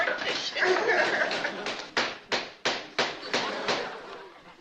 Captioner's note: gavel banging